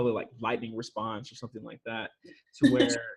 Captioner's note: chuckles